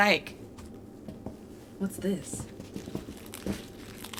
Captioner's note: Sim steps on something crunchy